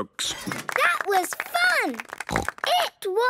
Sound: applause

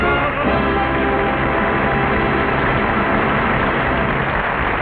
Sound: audience applauding

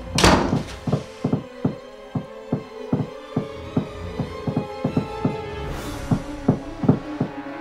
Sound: knocking from both doors; knocking from all three closed doors

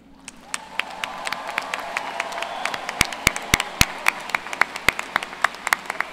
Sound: applause

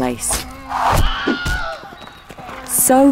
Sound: man screaming

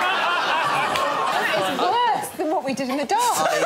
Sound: laughter

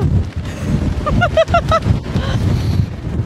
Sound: laughter

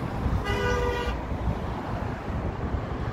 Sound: horn honk

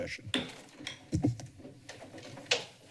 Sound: bangs gavel

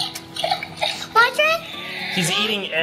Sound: feeding sounds

